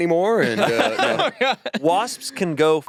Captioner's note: laughs